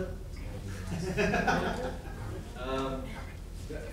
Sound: laughing

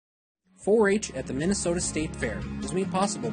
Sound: voiceover

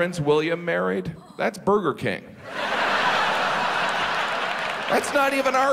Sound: audience laughs

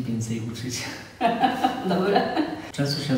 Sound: laughs

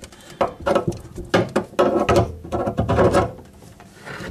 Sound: scraping metal

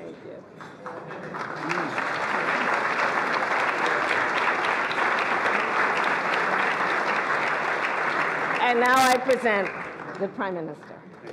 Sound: applause

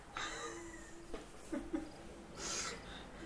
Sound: nervous laughter

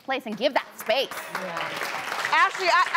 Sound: audience applauding

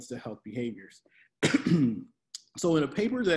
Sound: coughs

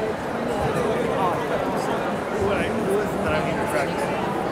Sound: crowd chatter

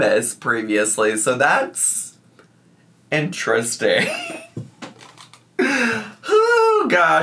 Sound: laughs

